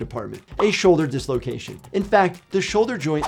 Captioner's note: bubble popping tone